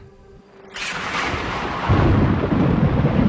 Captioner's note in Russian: раскаты грома